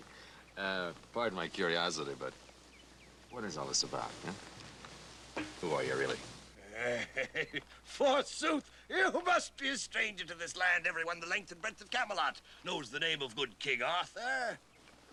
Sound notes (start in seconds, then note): 4.5 armor thuds; 6.6 chuckles